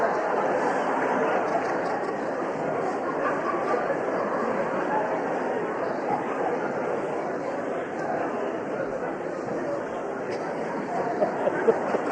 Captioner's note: laughter